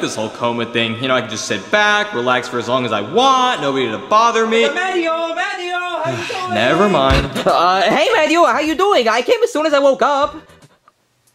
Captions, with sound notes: this whole coma thing, you know? I can just sit back, relax for as long as I want, nobody to bother me- - Mario! Mario! How are you doing? (Mario sighing) - Nevermind. - Uh, hey Mario, how you doing? I came as soon as I woke up.